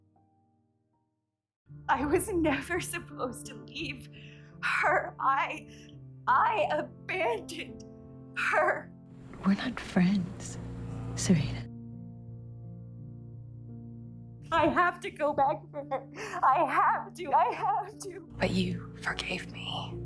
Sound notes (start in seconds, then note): 14.7 shouting